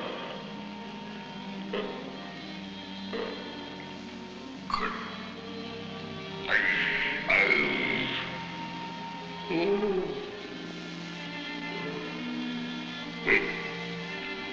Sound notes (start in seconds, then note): 0.1 gentle instrumental music; 3.2 grunting; 4.8 speaking in a foreign language